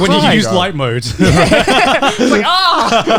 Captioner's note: laughs